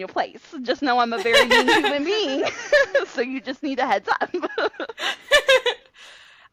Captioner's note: laughter